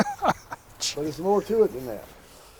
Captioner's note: laughing